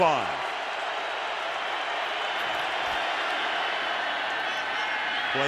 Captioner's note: cheering